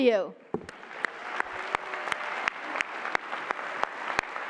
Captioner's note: applause